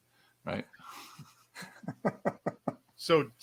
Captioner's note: laughs